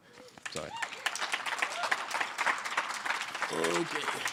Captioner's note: applause